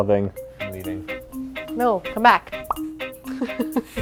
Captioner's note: pop; laughs